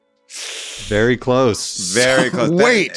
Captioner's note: hisses